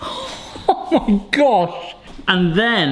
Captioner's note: laughs